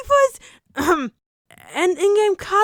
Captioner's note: cough